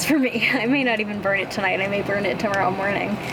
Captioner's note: laughing